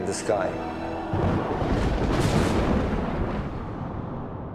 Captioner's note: thunder